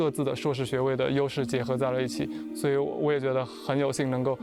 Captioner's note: speaking chinese